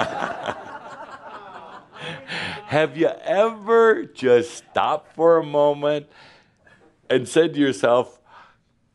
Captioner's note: laughter